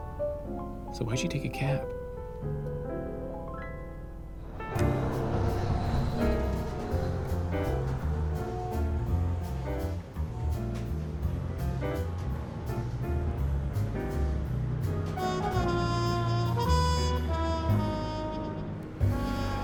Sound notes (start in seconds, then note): 4.0 car horns honking